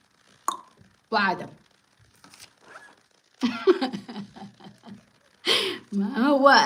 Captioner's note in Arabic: ضحك